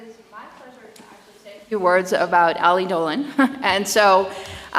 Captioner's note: chuckles